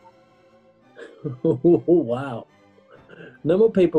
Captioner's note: chortling